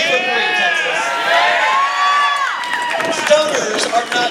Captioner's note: cheers